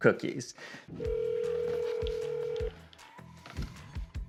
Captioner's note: phone ringing